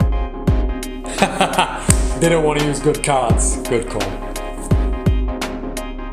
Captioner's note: laughs; upbeat music